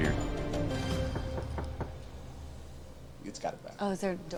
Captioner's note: knocking